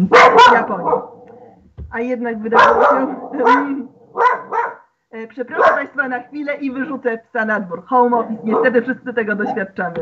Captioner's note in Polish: szczekanie psa